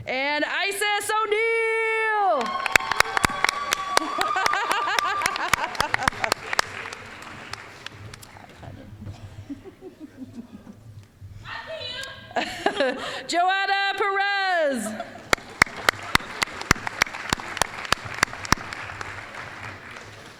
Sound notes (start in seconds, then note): 2.3 applause, cheering; 12.3 chuckling; 15.2 applause